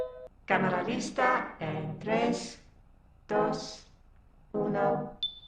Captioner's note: phone rings